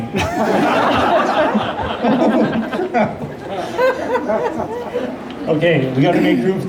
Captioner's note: laughter